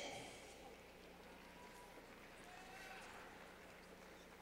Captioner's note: clapping